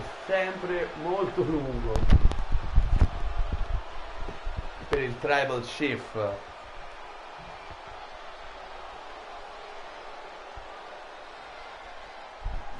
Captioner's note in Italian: Applauso